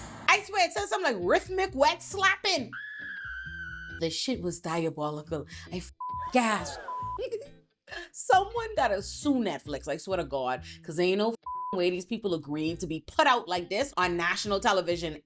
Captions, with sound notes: I swear it says something like rhythmic wet slapping. (siren blaring) The shit was diabolical, I (beep) gas. Someone that'll sue Netflix, I swear to God, cause ain't no (beep) way these people are green to be put out like this on national television.